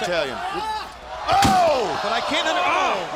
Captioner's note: crowd chatter